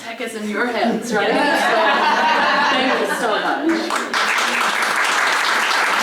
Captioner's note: laugh; applause